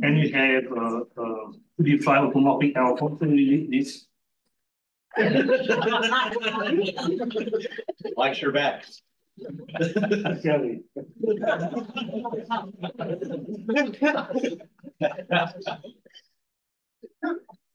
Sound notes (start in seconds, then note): 5.1 audience laughs